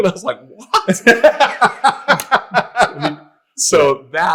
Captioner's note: all laughing